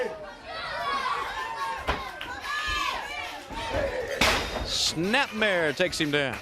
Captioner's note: crowd cheering